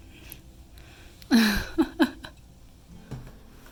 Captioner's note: chuckle chuckle chuckle